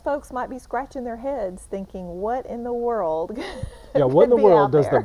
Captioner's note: chuckling